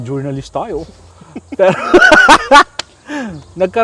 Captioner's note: laughs